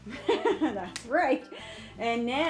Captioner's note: laughs